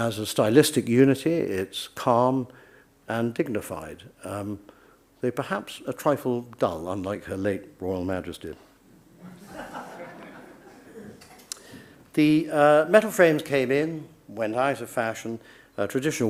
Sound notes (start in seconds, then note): 9.2 audience laughs